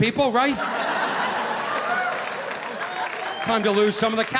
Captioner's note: audience laughing